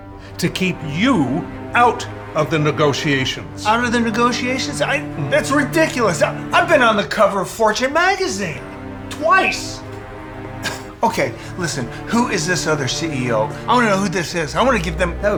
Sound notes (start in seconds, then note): 10.6 scoffs